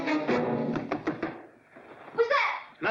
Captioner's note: playful music; knocking on door